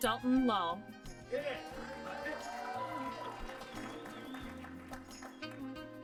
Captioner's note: applause